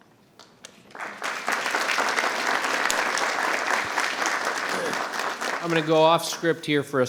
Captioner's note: attendees and members applauding